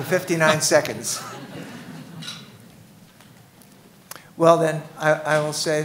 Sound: laughing

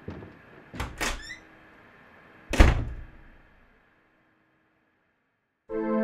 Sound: door opens and closes

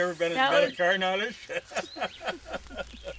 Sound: laughs

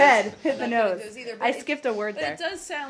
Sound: laughter

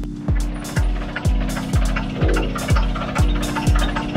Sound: machinery rattling

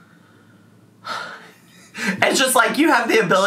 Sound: sighs

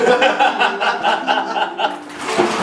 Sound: laughs

